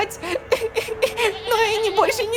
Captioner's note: cries